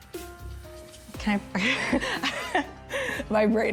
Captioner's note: laughing